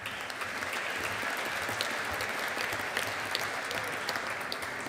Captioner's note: audience applauding